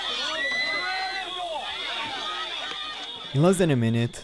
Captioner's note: woman screams